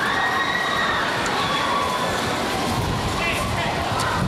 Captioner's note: people screaming